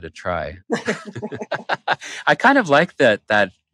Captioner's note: laughter